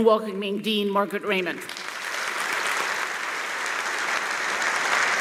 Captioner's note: applause